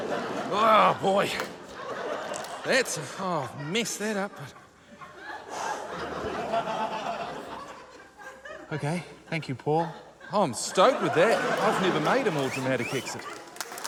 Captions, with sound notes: Oh, boy. That's― oh. Messed that up. (EXHALES) OK. - Thank you, Paul. - Oh, I'm stoked with that. I've never made a more dramatic exit.